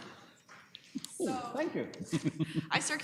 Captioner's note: chuckling